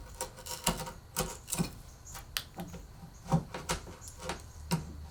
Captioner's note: chisel scraping